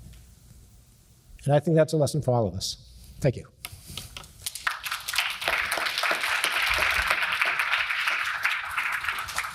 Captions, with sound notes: And I think that's a lesson for all of us. Thank you. (crowd claps)